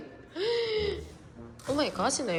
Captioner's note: gasps